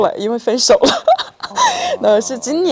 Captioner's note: laughs